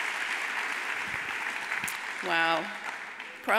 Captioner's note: audience applauds